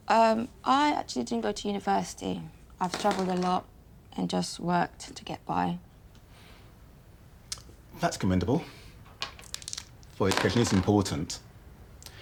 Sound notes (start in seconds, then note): 2.8 dice clattering